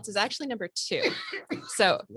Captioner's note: coughs